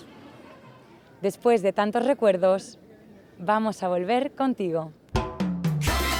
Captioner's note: speaks in foreign language